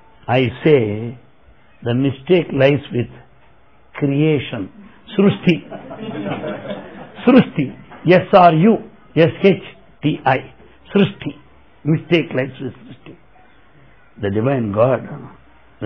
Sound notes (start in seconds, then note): 8.8 laughter